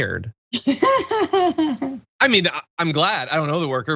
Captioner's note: laugh